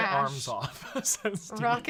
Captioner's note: laughs